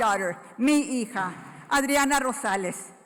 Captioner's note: foreign language